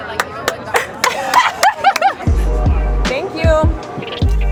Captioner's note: all laugh